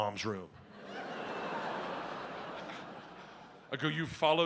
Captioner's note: audience laughs